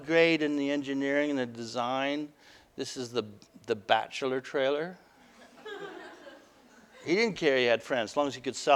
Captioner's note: audience: Laughter